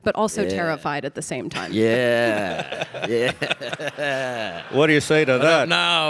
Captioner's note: laughs